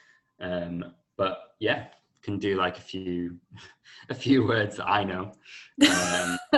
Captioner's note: laughter